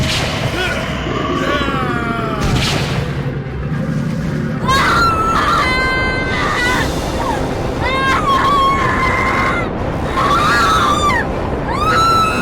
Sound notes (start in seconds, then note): 0.5 Bruce groans; 4.6 Alison screaming